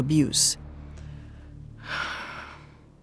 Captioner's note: sighs